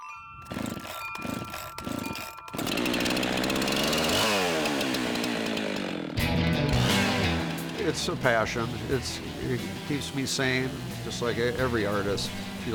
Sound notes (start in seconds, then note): 3.3 wind chimes, chain saw sounds